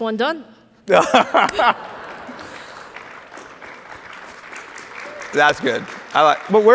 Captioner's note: laughs; audience applauds